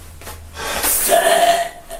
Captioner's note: grunt